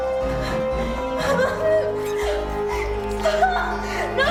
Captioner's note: whimpering